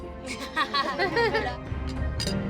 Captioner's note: laughter